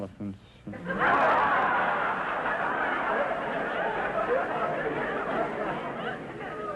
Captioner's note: audience laughter